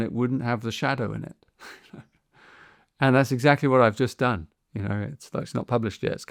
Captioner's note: chuckles